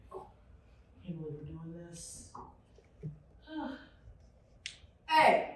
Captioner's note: sighs